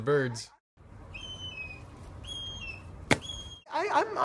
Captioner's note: bird chirps